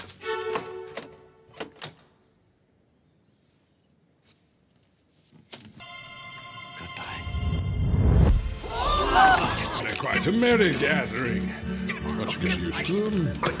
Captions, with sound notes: Good-bye. *GASPS AND OUTCRY* They're quite a merry gathering! Once you get used to them.